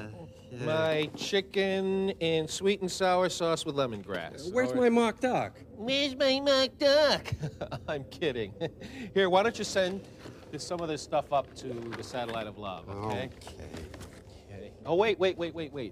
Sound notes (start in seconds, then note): 7.2 laughs